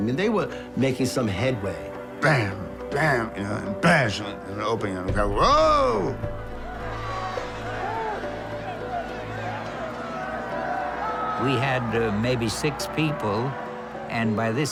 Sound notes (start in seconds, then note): 6.1 yelling